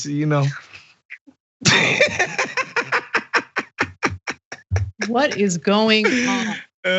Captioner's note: laugh